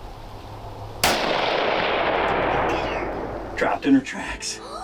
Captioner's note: gunshot